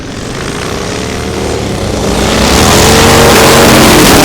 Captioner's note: engines revving up